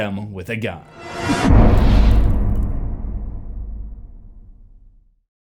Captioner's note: impact